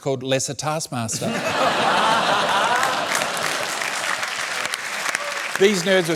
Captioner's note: laughter and applause